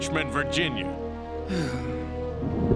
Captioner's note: sighs